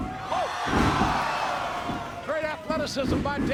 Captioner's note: audience cheering